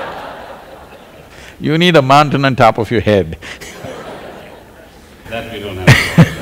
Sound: laughter; laughter

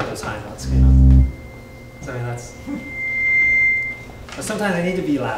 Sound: electronic beeping

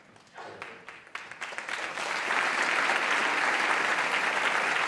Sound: applause

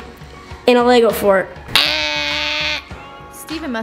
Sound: imitating buzzer

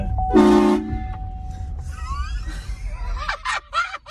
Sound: horns blaring; laughter

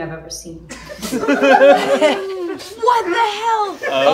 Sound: group laughs

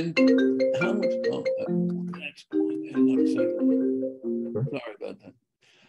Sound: phone rings

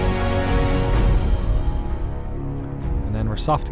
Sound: music swells; booms

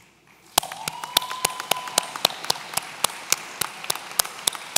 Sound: audience cheering

